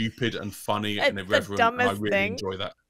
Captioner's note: laughs